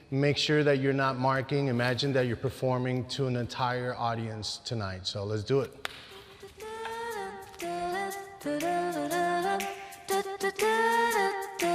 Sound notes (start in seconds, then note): 5.7 clap